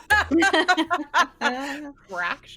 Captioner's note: everyone laughs